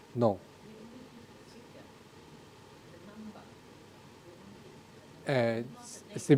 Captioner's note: woman speaking in background